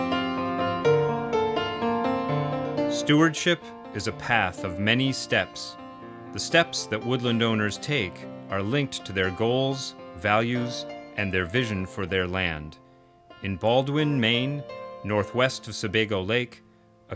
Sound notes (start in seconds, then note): 3.1 voiceover